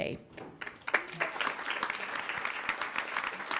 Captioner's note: applauding